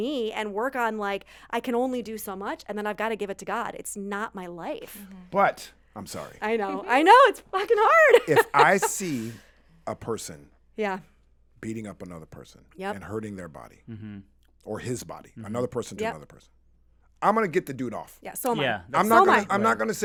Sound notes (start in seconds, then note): 7.6 laughs